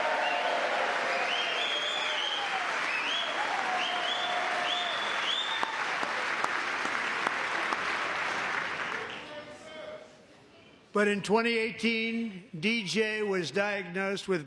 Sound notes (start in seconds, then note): 1.8 cheering; 3.5 applause